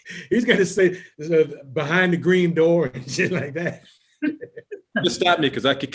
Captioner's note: laughing